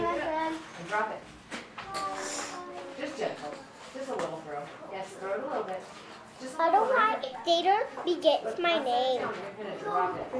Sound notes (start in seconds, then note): 1.8 background classroom chatter